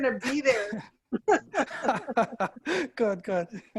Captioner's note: laughing